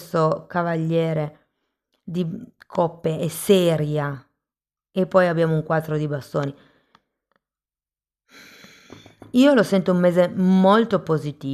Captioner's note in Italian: sospiri